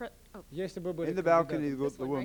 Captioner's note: non-english speech